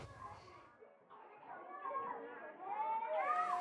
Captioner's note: voices